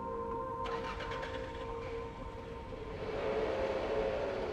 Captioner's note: engine revving